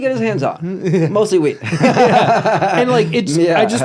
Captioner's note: laughs